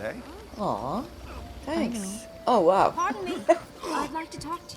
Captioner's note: laughs